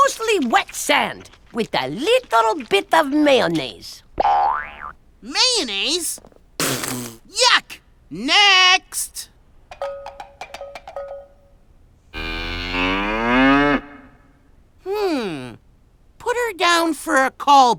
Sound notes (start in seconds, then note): 6.5 spits; 9.7 cowbell jingles